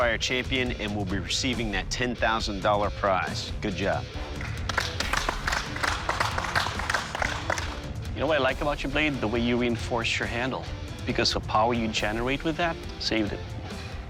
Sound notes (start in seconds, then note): 4.3 applause